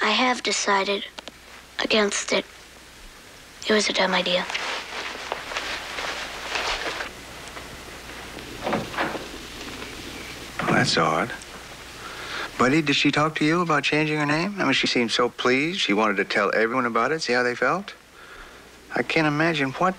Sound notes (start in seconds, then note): 8.6 door opens; 8.6 door closes